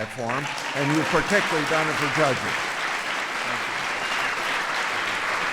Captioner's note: applause